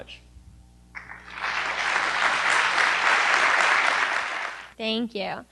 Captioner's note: applause